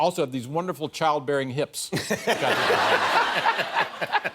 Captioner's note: laughter